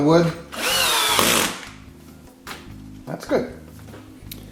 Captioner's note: cordless drill turning